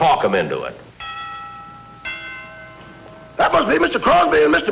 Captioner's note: doorbell Rings